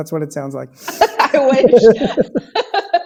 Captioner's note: laughs